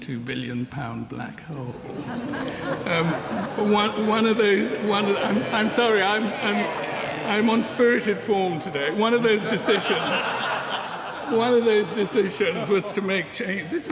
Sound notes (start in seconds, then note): 1.8 laughter